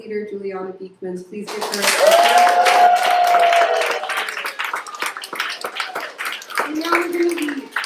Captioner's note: applause